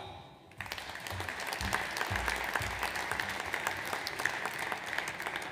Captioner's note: audience applauds